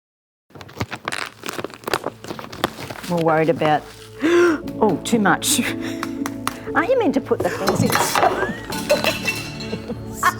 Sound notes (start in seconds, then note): 0.5 plastic bags rustle; 4.0 gasps; 5.8 trowel taps; 7.4 pot plant thuds; 7.4 trowel clatters